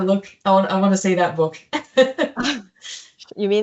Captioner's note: laughs